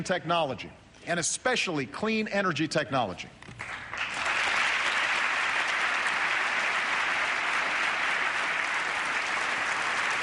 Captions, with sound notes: technology, and especially clean energy technology. [APPLAUSE]